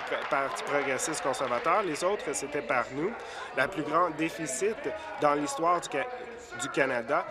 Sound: applause

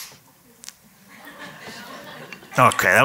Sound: laughter

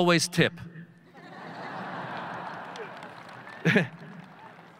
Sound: audience laughing

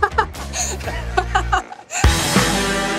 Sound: laughs

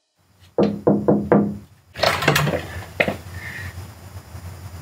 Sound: knocking on window

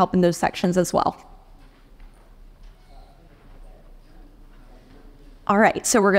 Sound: audience chattering

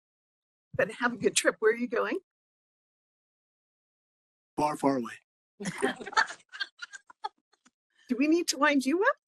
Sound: laughing

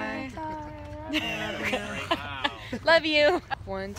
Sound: laughing

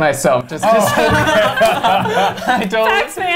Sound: everyone laughs

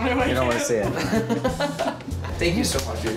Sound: laughing

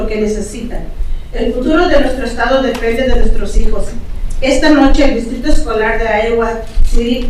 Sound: continues speaking in Spanish

